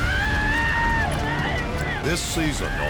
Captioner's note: cowboys whooping